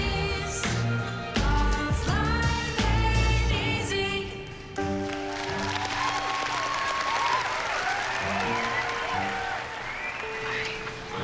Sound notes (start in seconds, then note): 4.8 applause, cheering